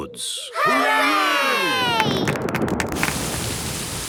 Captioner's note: thunder